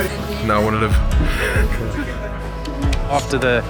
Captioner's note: laughs